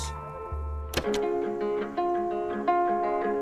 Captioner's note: click